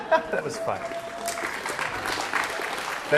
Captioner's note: applause